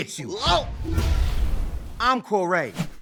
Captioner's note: air whooshing